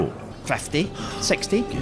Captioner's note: sigh